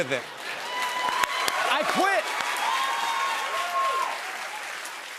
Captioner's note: cheers and applause